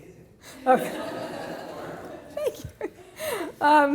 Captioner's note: laughs